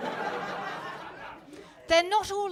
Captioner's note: audience laughing